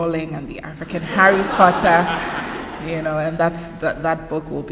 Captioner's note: laughter